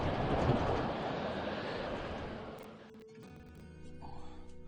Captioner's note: strong winds howl, rattling the windowpanes